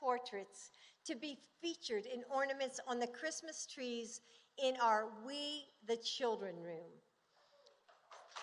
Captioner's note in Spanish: Aplausos